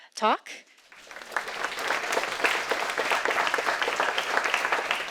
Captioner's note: audience applauding